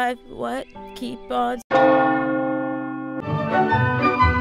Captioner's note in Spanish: Campanas de iglesia